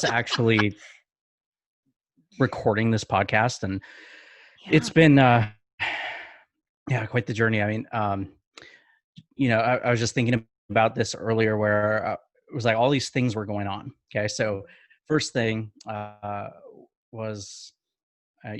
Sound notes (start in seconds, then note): 5.8 sighs